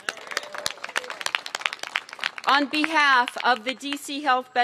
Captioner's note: applause